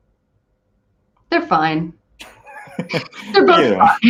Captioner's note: laughing